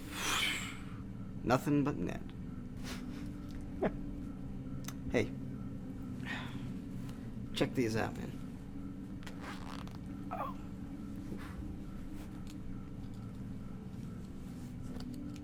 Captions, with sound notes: (Bix imitates whoosh of a ball) - Nothing but net. (Frank chuckles) - Hey, check these out man. (pocket zips open)